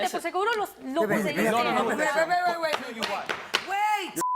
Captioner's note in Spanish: Hablan al unísono